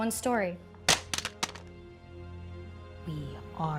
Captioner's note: phone landing